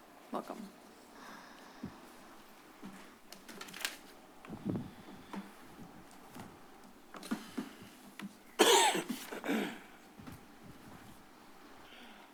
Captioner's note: silence